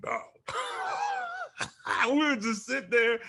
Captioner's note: Bobo laughs